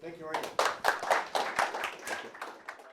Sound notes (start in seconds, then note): 0.2 applause